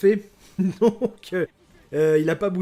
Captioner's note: nervous hon hon hon